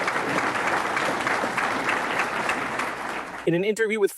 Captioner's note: audience applauding